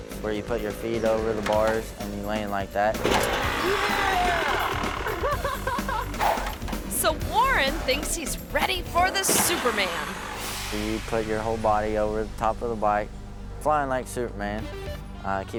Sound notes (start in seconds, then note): 3.1 motorbike revs; 3.1 ramp clangs; 3.4 laughs; 5.6 motorbike revs